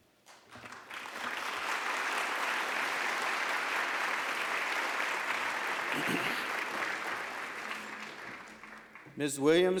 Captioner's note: applause